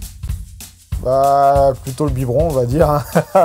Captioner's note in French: rires